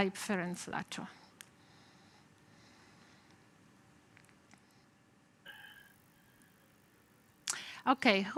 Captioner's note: pause